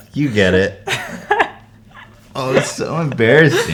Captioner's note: more embarrassed laughter